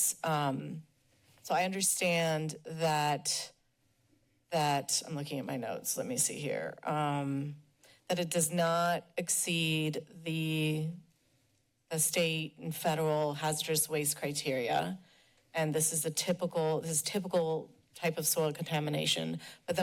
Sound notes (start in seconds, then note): none